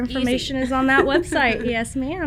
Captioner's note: laughs; chuckles